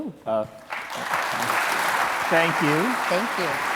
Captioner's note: audience applauding